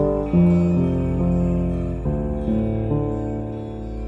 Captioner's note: Weeping